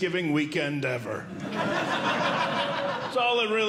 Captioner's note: audience Laughing